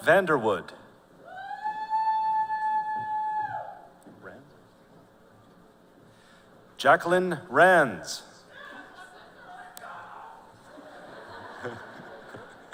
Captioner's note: laughter